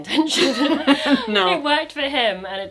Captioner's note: laughing